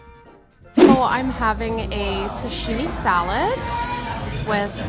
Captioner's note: whoosh